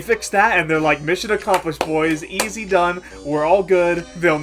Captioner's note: clapping